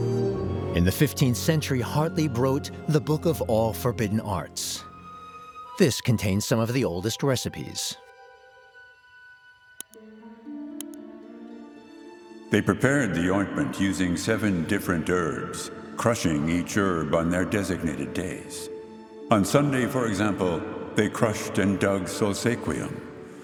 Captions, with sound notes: In the 15th century, Hartlieb wrote "The Book of All Forbidden Arts." This contains some of the oldest recipes. (disembodied voice) "They prepared the ointment using seven different herbs, crushing each herb on their designated days. On Sunday, for example, they crushed and dug Solsequium.